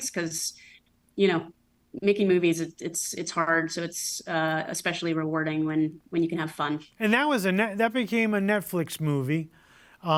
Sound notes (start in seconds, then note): none